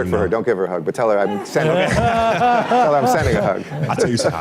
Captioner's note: laughter